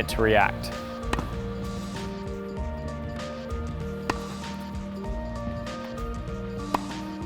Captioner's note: relaxing music; tennis ball smacking